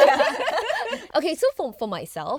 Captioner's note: girls laughing